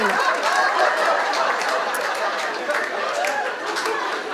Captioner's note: audience laughing